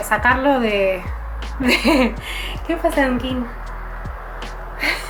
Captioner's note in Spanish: risas